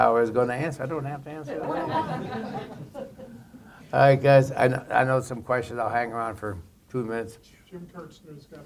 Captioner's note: laughter